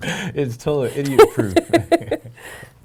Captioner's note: laughing